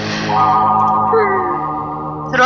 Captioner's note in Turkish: İç çekme